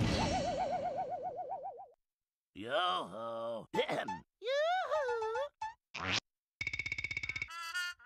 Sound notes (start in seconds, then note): 3.7 clears throat